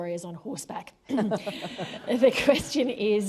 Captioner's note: laughter